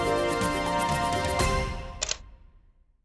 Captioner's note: camera shutter clicking